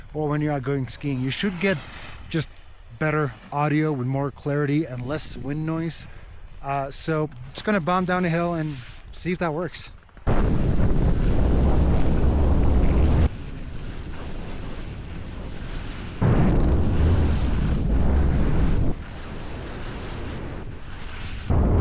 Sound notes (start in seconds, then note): 11.0 wind whooshing; 13.5 skis swishing; 16.2 wind whooshing continues; 18.1 skis swishing